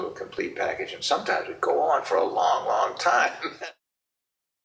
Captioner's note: laughs